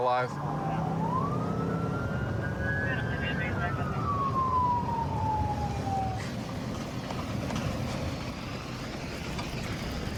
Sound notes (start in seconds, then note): 0.0 police sirens blaring; 2.8 dispatch chatter